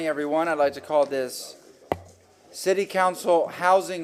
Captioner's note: sounding gavel